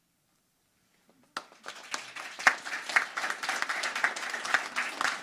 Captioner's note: crowd applauding